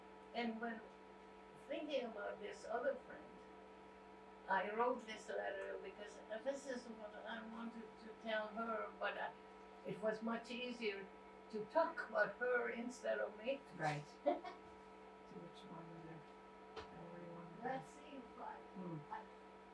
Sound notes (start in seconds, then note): 14.2 laughing